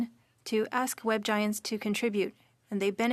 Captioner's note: speaking French